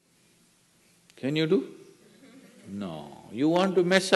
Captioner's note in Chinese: 少許笑聲